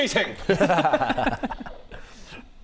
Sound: sympathetic yet judgmental laughter

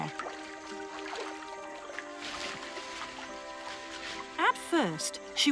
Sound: water splashes; leaves rustle

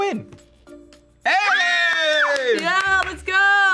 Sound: screams

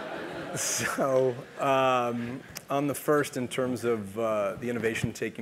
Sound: laugh

